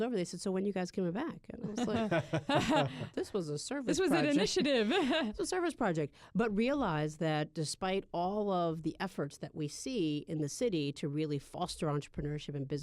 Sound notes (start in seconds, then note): 1.6 laughter